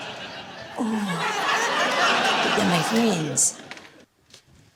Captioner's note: whimpers